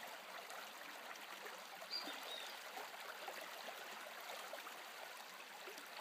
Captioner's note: running water and bird noises